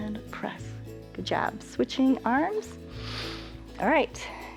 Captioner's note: inhales